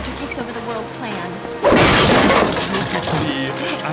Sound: crash

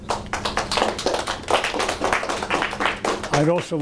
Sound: audience applauding

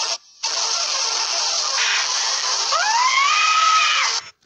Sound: he screams because he got kicked again

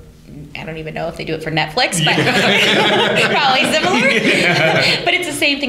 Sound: laughter

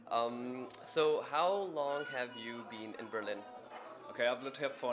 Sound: as a baby squeals in the background

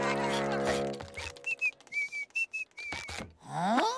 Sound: whistling

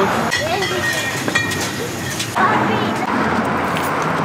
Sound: objects shuffling

